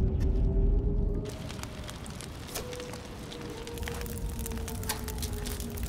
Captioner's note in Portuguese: fogo crepitando